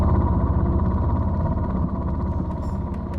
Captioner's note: engine noise